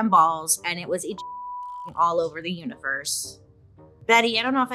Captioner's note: beep